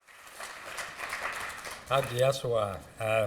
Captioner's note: applause